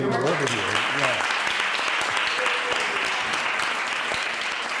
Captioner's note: applause